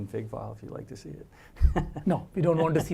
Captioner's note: laugh